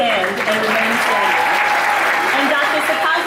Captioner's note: audience applauding